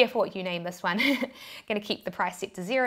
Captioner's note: laughs